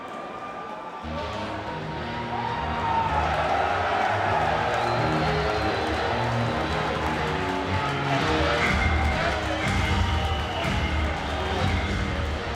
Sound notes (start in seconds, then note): 1.1 hard-hitting rock music; 2.7 spectators cheering